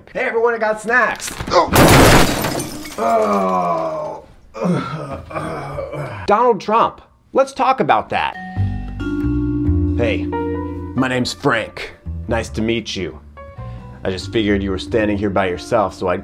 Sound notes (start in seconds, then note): 1.2 Frank crashing; 4.5 Frank groaning